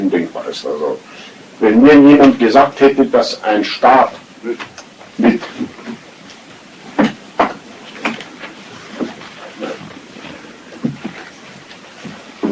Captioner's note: a door opening and closing interrupts Hitler